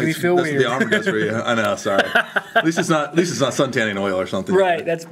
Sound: laughs

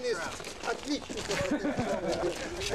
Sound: russian speech; laughter

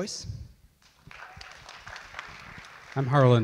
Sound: audience clap

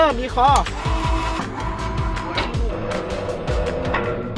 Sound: machine moving

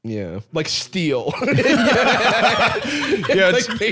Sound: all laughing

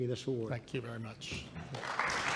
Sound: applause

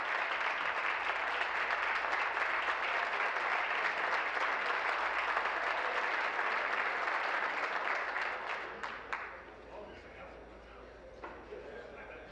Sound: applause

